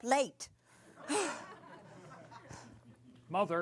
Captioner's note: laughter